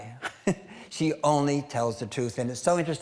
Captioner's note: chuckling